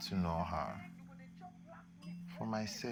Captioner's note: neighbours talking outside